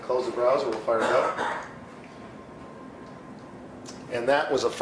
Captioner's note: cough